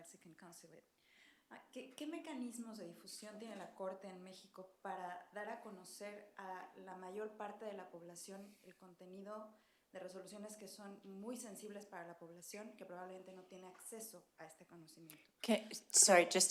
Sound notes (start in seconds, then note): 2.1 speaking spanish